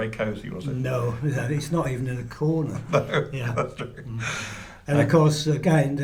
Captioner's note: laughter